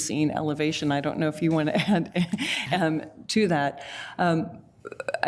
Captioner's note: laughs